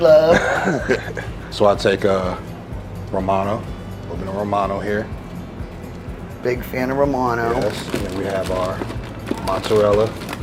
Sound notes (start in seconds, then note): 0.0 laughing